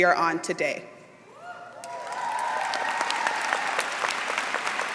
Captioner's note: applause